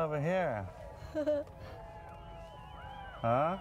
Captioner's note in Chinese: 傻笑